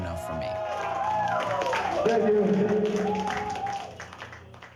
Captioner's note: cheering